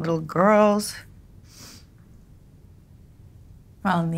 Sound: sniffles

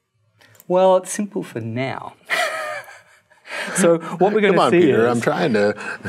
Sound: laughs

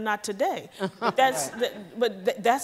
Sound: audience laughs

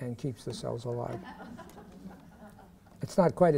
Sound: laughter

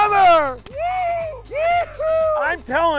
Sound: cheering

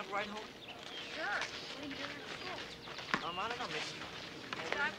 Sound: girls chattering

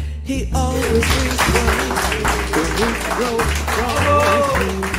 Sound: audience applauds

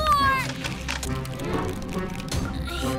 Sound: ice crackling

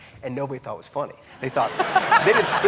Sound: audience laughing

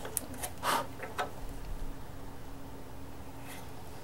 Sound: wood scraping; blows

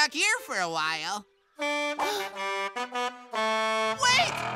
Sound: truck horn honking

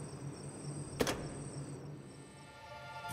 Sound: sfx: lights turning off

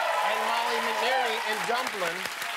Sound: cheers and applause

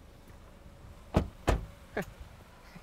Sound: doors thud

